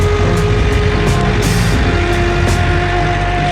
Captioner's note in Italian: Sound Campagnola Diesel